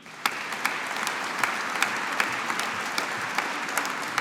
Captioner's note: audience applauding